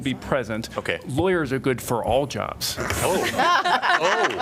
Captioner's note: laughter